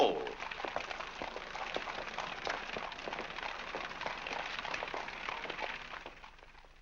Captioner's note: hooves trotting